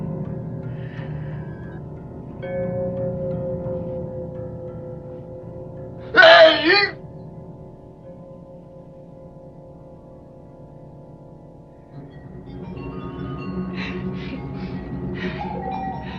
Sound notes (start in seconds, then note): 6.1 screaming